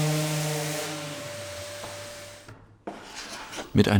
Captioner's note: engine is switched off